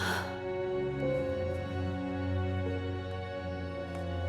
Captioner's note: Catherine sighs